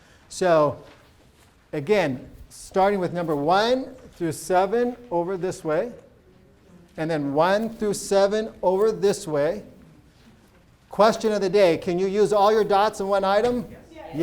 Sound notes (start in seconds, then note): none